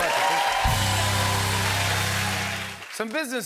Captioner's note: cheers and applause